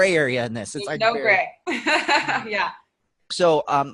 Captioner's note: laughing